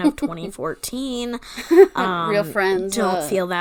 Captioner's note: laughing